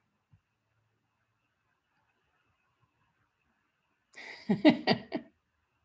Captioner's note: chuckles